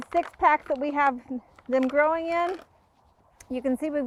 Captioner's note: pack ruffling